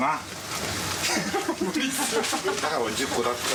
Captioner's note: man laughing